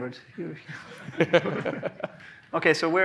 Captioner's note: laughs